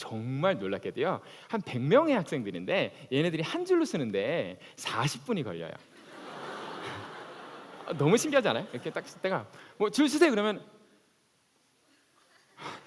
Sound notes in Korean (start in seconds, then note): 5.9 웃음